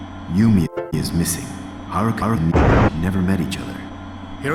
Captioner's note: convenient thunder